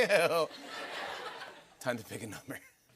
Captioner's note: laughter